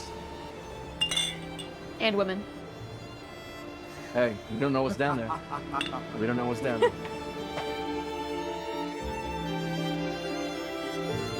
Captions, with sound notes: (bottles clanking) - And women. - Hey, we don't know what's down there. We don't know what's down there. (gentle somber music)